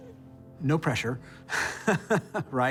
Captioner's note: laughs